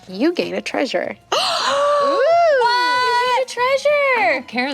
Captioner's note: gasps